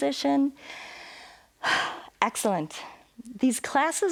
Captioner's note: inhales and exhales